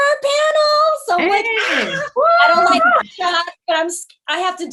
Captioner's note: group cheering